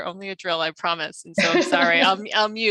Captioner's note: laughs